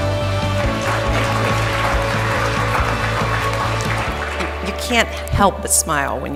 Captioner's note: audience applauding